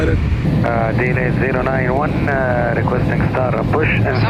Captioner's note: talking over radio